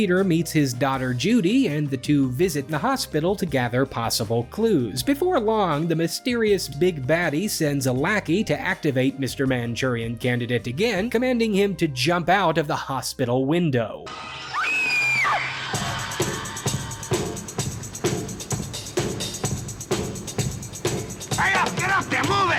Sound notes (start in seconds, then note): 14.3 screams; 16.0 dramatic music